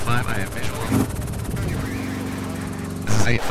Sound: static flickers

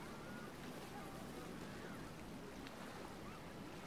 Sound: quiet ambient crowd noises

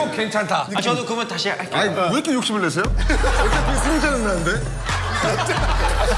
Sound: laugh

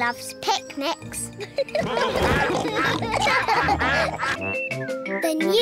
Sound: all giggle; quacking

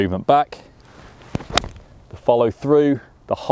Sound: ball thwacks

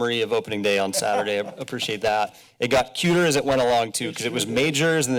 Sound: laughter

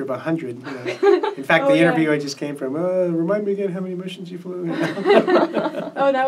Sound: all laugh

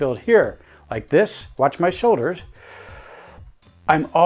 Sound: deep breath in

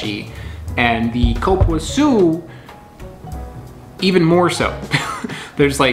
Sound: chuckles

